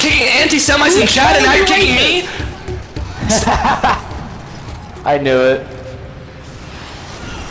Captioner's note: laughing